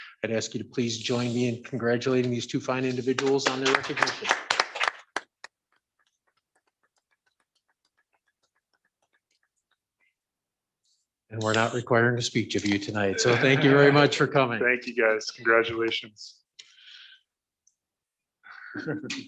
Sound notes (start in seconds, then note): 13.1 laughter